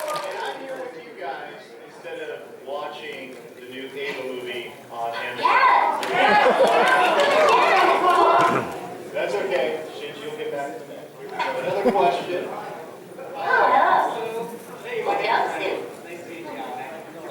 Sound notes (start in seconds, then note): 5.4 cheering